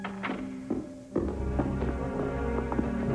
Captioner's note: footsteps approaching